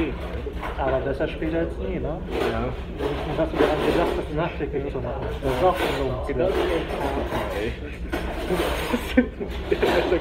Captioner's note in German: Alle lachen